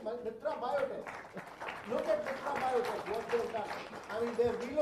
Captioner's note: applause